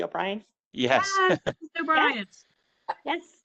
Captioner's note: laughter